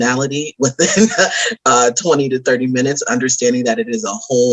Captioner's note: laughs